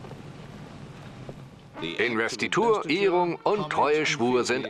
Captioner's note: voiceover